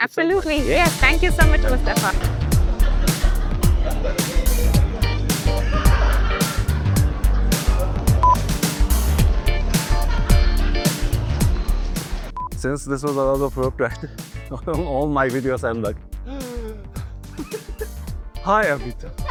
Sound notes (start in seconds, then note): 16.2 deep breaths; 18.4 winded